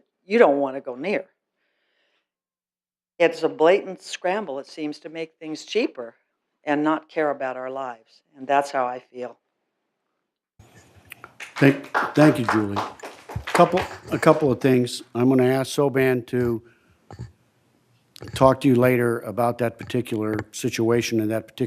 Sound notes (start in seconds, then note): 13.9 applause